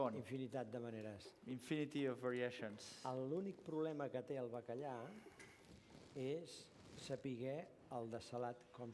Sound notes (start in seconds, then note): 0.6 non-english speech; 4.1 non-english speech